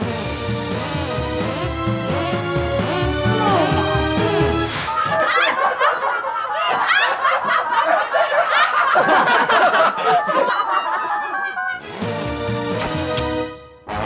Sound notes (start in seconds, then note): 4.8 laughing